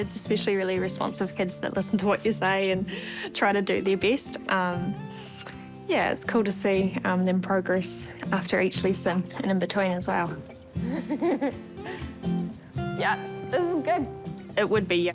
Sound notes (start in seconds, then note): 10.8 chuckles